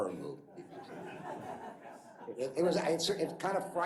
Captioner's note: laughter